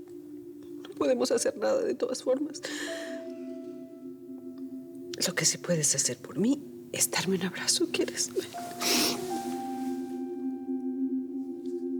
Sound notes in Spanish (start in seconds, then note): none